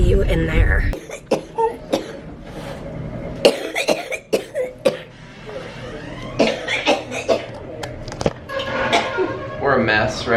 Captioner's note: coughing